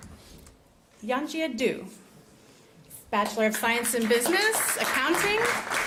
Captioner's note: applause